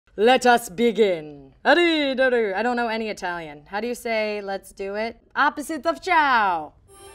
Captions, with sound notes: - Let us begin. (speaking pretend Italian) I don't know any Italian. How do you say, "Let's do it?" Opposite of ciao.